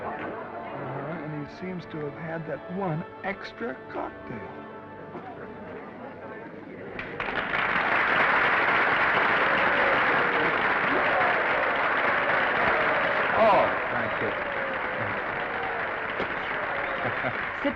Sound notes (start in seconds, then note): 3.6 attendees chattering; 6.9 audience applauding; 7.0 attendees cheering; 14.6 Norman chuckles